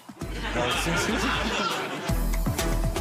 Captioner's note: crowd laughs